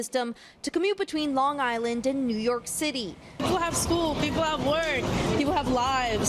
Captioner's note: horns